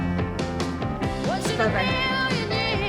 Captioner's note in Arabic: تتحدث بشكل غامض